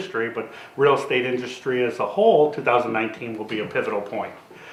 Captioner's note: none